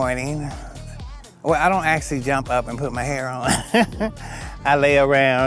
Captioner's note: chuckles